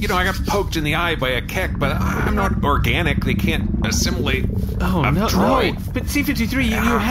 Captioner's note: gurgling